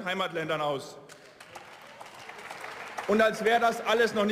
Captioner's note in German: Beifall